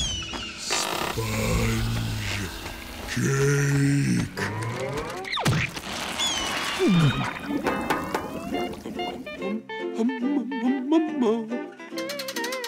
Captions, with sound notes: Sponge... cake. [knocking] [humming]